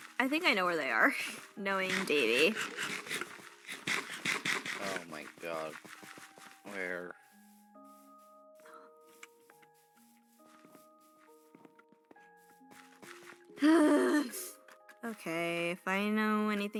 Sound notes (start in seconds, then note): 7.9 sigh